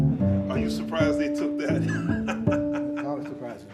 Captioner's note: laughing